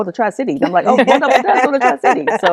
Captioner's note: laughter